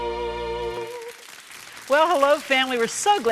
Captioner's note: applause